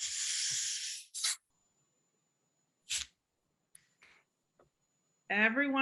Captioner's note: soda bottle fizzing